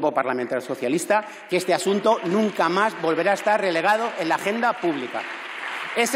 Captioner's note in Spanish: Aplausos